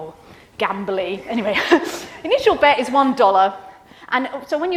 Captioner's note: laughs